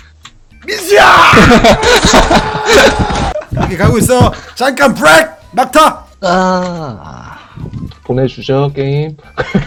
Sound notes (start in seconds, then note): 1.3 laughter